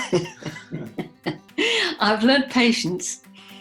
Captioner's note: laughs